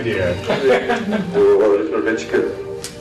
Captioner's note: laughter